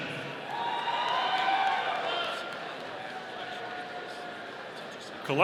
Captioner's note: audience applauding